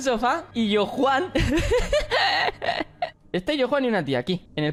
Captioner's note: laughs